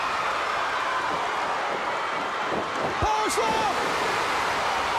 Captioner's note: crowd cheering